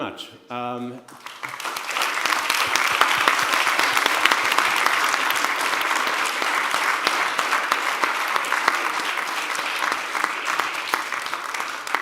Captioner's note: applause